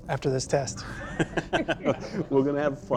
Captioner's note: laughter